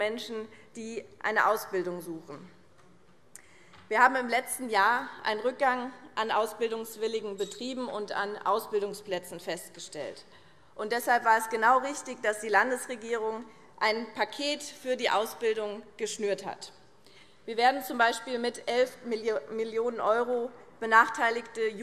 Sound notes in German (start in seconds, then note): none